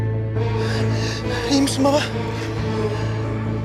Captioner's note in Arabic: آدم يلهث